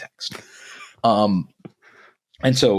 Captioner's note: laughing